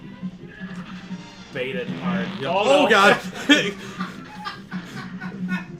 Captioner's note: pbbbt